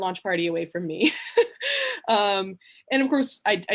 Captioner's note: she laughs